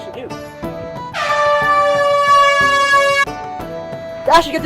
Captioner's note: conch sounds